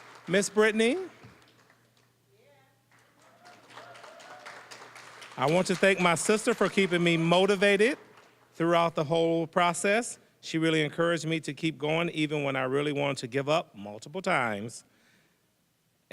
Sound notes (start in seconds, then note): 0.0 applause; 3.0 audience cheers